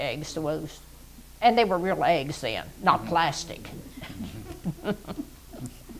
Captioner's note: laughs